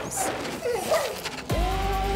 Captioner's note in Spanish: el perro ladra